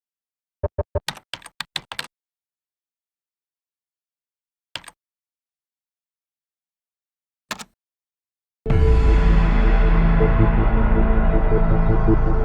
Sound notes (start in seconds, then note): 1.1 keyboard clicks; 8.6 dramatic music